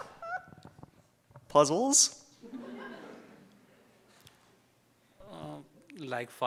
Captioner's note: audience laughs